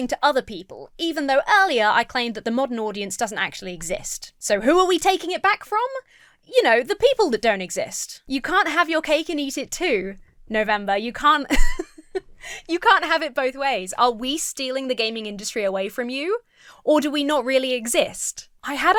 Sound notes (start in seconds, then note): 11.4 laughs